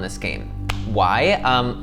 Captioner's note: hand clap